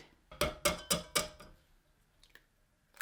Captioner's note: hits egg on pot; cracks egg